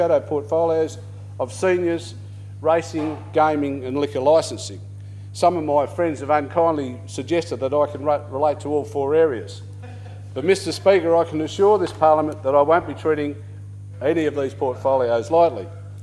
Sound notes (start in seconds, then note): 9.8 laughter